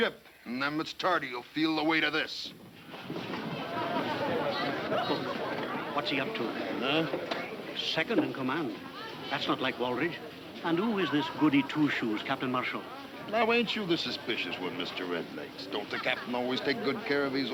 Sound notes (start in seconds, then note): 3.0 people chattering